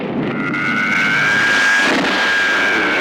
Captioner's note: zooming